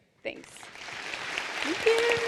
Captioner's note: applause